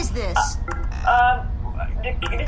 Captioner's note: buttons beeping, makes uncertain noises